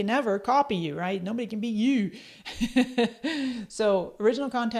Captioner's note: chuckles